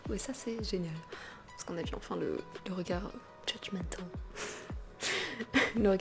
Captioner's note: laugh